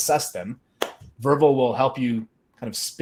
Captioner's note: palm taps